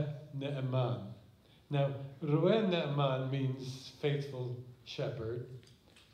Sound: speaking hebrew

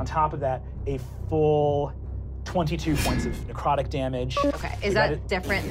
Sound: slicing

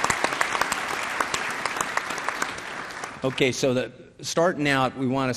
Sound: applause

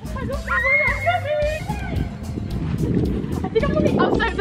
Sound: screaming

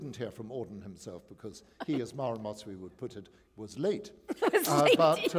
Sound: laughter

